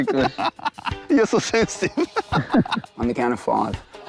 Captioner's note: laughs